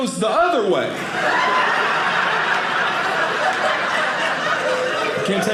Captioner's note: audience laughing